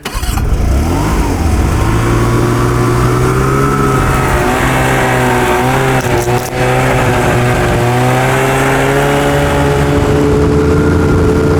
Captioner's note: engine noise